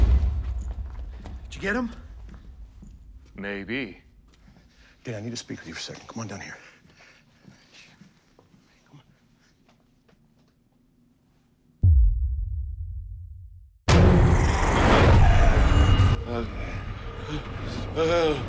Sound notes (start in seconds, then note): 13.9 zombies growling; 16.3 moaning